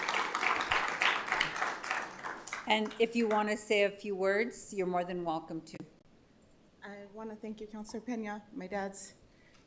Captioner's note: applause